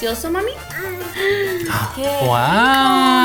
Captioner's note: speaking in foreign language; all gasping; speaking in foreign language